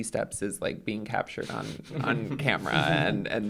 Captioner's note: chuckles